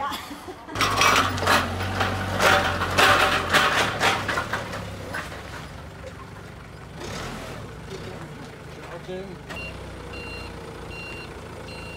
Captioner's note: engine noise